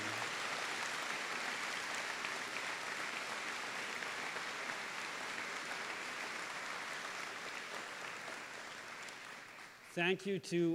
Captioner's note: applause